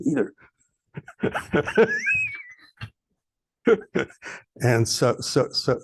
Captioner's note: laughs